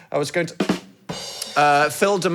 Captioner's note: "Ba-dum-tss" sound effect